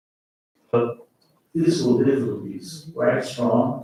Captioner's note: faintly speaking